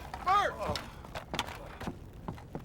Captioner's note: groaning